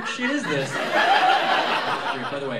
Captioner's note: laughter